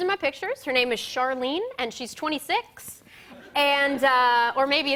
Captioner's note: laughter